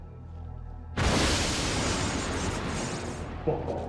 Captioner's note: atmosphere fizzling